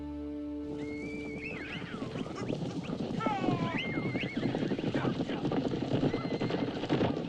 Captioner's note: hooves thundering; horses whinnying